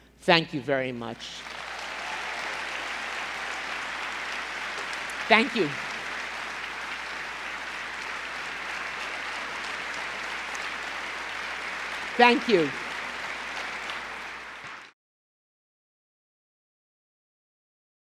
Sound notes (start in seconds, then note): 1.5 applause